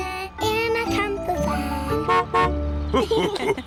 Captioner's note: horn honks; laughter